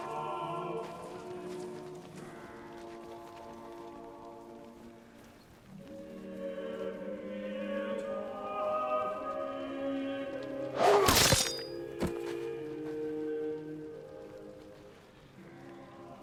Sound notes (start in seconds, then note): 10.3 grunts